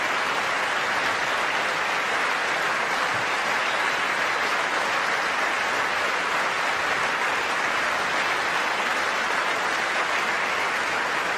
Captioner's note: applause